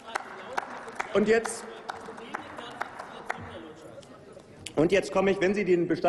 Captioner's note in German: Applaus